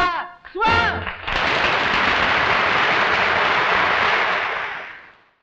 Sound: audience applauds

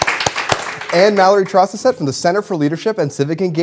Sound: applause

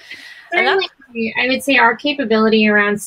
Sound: laughs

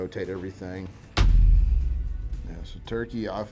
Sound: text thuds

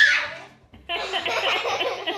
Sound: screeming; laughing

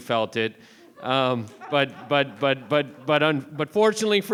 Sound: board members laughing

